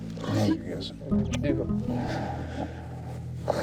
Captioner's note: smooches, sighs